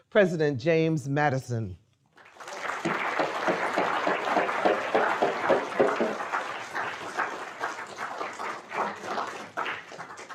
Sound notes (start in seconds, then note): 2.2 audience applauding